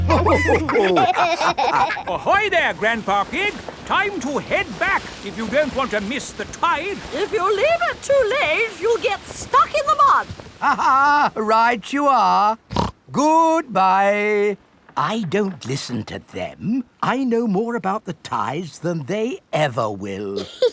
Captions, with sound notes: (ALL LAUGHING) Ahoy, there, Grandpa Pig! Time to head back if you don't want to miss the tide. If you leave it too late, you'll get stuck in the mud. (LAUGHS) Right you are! (SNORTS) Goodbye! I don't listen to them. I know more about the tides than they ever will!